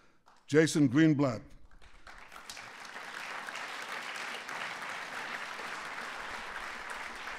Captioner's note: applause